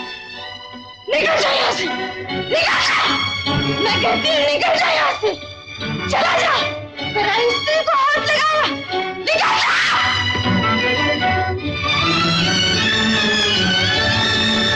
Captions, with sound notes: Get lost! Get lost! I'm telling you to get lost! Go! You touched another man's wife. Get lost! (Screams)